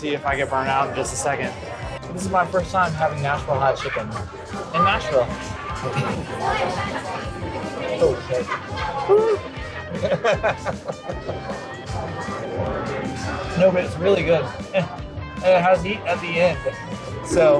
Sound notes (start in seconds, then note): 9.8 laughter